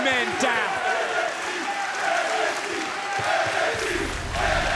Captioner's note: crowd chants "NXT"